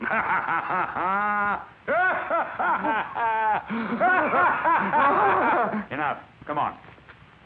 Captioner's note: both laughing